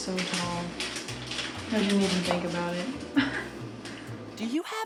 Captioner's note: laughs